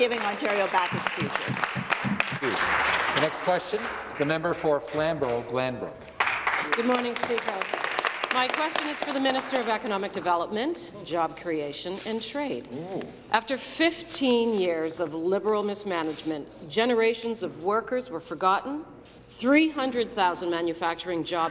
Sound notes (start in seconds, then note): 4.5 applause